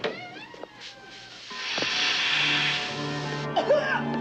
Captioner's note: door creaks open; spray hissing; Nina coughing, choking